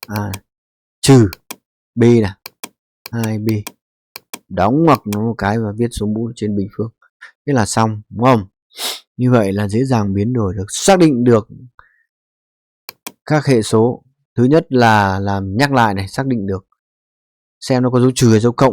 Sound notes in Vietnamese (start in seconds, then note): 8.8 khịt mũi